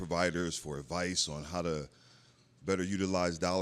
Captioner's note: none